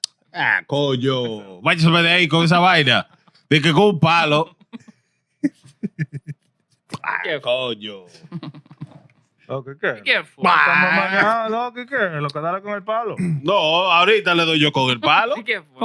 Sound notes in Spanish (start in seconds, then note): 3.6 Hablando en idioma extranjero; 3.6 Riendo